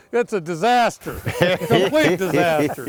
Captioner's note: laughing